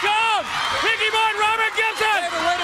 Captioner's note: crowd cheering